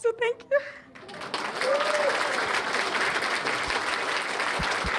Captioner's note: cheers and applause